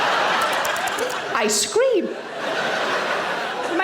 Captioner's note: audience laughing; smacking lips; audience laughing